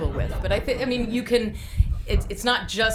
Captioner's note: group laughing